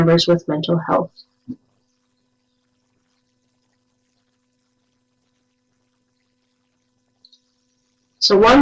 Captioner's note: no sound